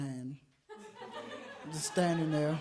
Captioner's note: audience laughs